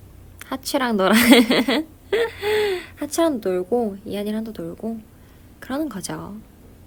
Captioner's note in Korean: 웃음